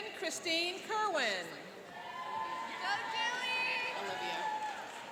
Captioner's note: cheering and applauding